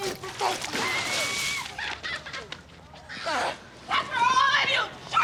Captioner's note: water splashing; woman laughing